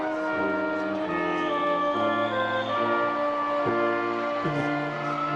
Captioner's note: attendees cheering